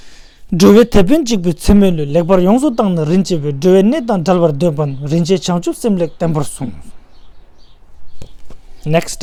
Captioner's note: tibetan